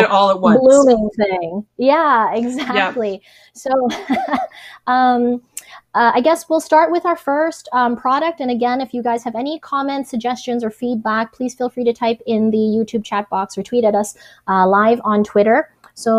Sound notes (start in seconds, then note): 2.4 laughs